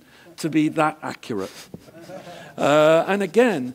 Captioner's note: laugh